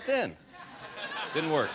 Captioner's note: laughter